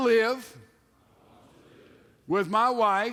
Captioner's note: men repeat